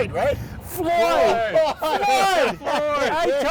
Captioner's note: laughs